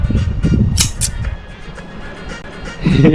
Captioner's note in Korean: 찰칵